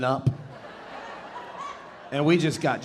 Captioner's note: audience laughing